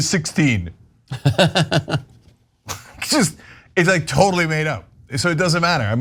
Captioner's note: laugh